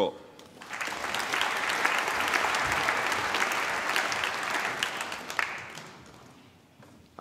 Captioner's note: applause